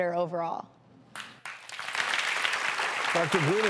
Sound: audience applauding

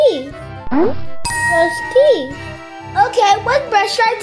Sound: bell chiming

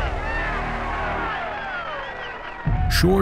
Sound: crowd cheering

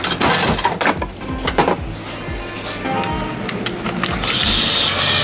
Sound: coins clinking; plastic clunking; motor whirring

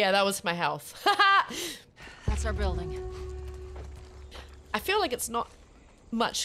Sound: laugh

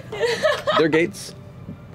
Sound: laughter

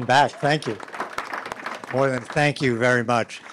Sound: audience applauding

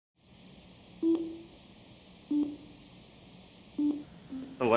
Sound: beeping

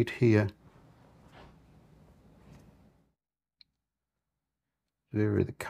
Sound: silence

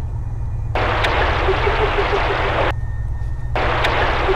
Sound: static hissing

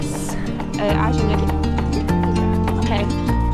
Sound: speaks foreign language; cheerful music

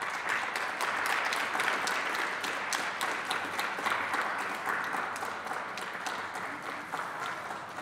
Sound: applause

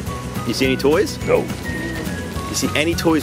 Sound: monster Voice

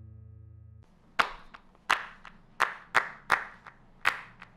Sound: hands clapping

